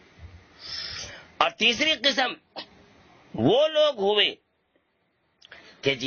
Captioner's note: clears his throat